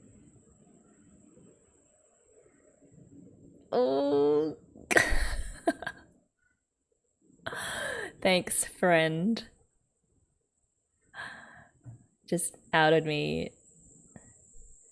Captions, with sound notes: Ooo - ! [laughs] Thanks, 'friend'. 'Just outed me.'